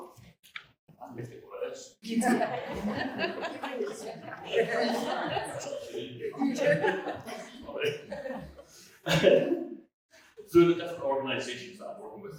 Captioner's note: laughter